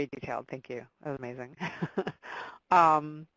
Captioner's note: laughing